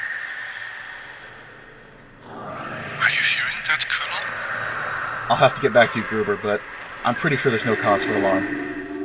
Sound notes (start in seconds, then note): 2.5 Lukas radio voice